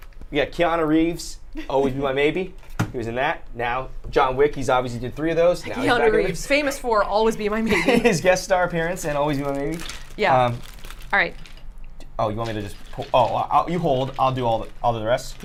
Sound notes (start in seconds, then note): 8.2 laughs